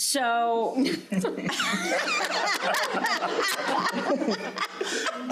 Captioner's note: crowd laughing